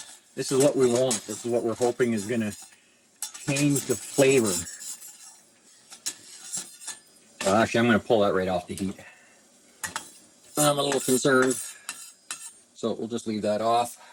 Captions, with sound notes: this is what we want. This is what we're hoping is gonna change the flavor. (mixer whirring) Actually, I'm gonna pull that right off the heat. I'm a little concerned, so we'll just leave that off.